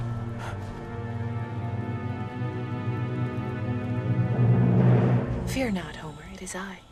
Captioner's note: dramatic music; Homer gasps